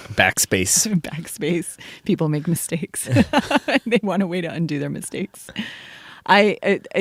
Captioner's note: laughs